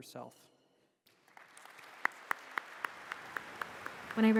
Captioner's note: applause